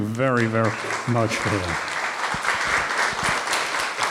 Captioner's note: applause